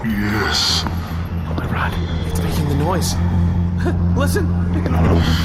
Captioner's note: the woodsaber hums with power